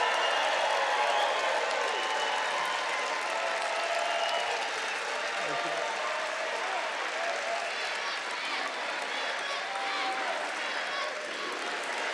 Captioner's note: audience chants "USA"